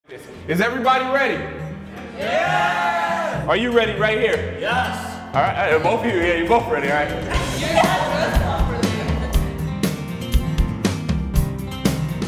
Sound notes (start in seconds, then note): 7.2 laughing; 9.0 upbeat music